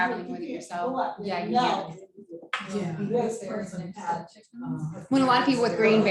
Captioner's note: indistinct conversation